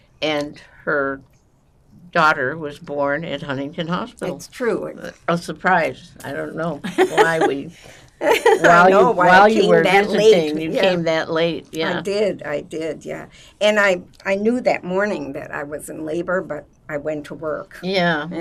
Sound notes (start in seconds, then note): 6.8 laughing